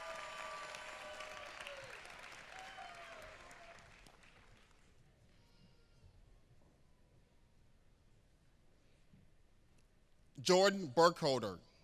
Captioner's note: applause